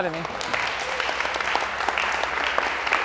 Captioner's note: clapping